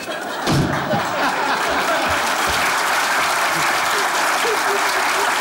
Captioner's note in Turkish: Kahkaha ve alkış sesleri